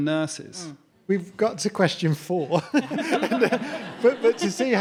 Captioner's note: audience laughing